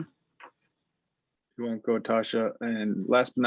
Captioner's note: non-english